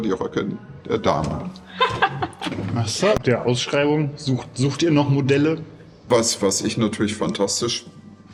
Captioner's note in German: gelächter